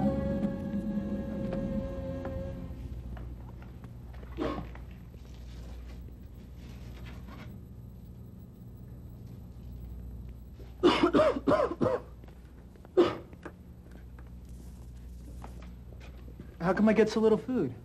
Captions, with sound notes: [coughs] How come I get so little food?